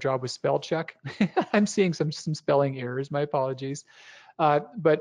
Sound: laughs

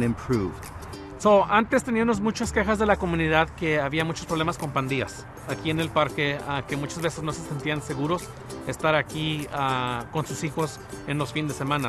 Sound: Spanish

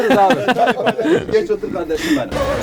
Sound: laughs

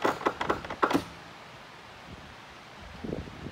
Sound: creaking as strap tightens; latch snaps shut

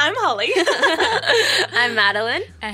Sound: women laugh

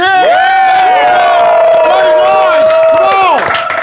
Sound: sound of cheering

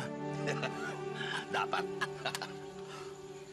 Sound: both laugh

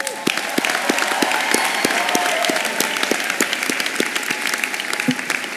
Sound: audience applauding

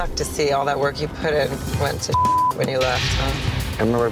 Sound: beep

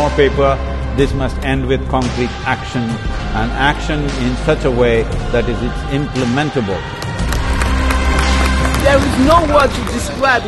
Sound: applause

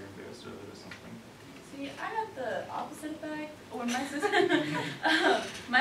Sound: laughs

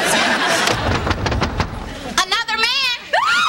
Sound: knock on door

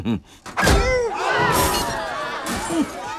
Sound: Sherlock chuckles; gasps

